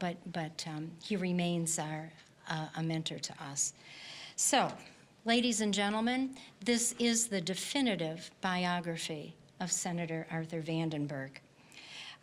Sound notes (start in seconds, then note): none